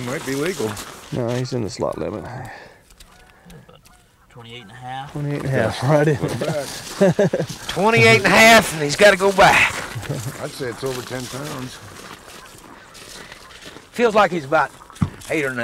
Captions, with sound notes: no he is in the slot limit 28 and one half, 28 1/2 [Laughter] 28 1/2 he's got to go back I would say it's over ten pounds feels like he is 8 or 9